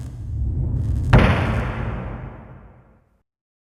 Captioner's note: thud